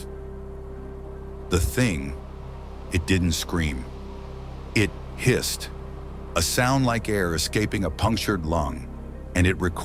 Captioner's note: hissed